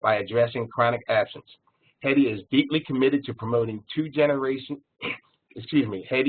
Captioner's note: cough